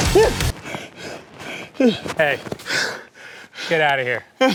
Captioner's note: humming threateningly; panting